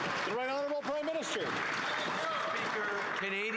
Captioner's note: applause